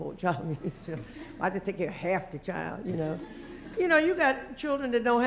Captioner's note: laugh